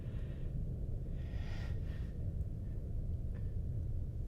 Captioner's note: heavy breathing